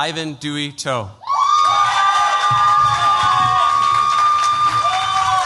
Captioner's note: cheers, applause